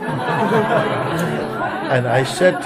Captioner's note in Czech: Smích